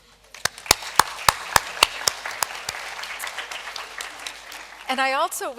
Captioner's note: applause